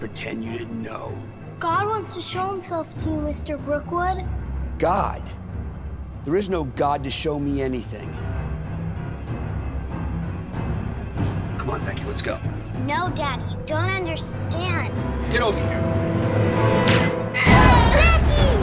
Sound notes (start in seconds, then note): 15.6 gun shot; 15.6 scream